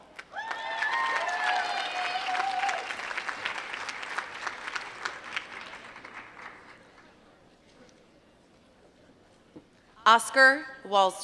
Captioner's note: applause